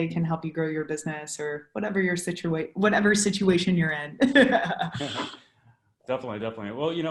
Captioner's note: laughs